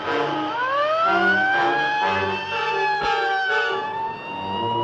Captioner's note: siren wailing